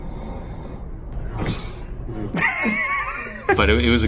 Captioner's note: laughs